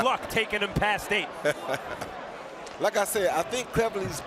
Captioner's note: laughs